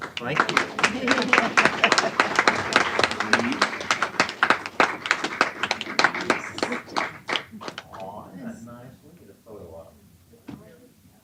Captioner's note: applause